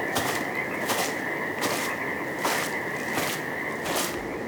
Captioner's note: undergrowth crunching